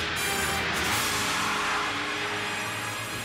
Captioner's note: tires squealing